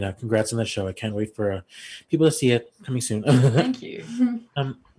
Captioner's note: laughs